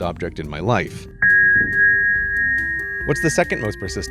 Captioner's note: rings hit each other